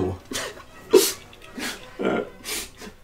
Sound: Rex sobs

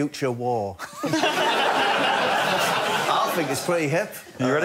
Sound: laughter

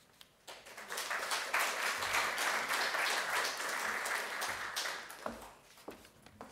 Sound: audience claps

